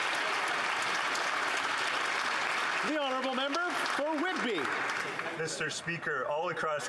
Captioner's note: applause